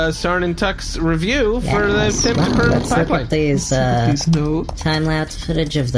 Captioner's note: typing